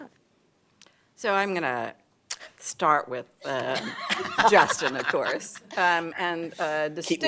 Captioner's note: laughter